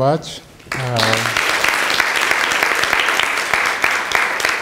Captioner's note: applause